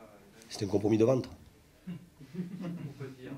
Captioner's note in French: rires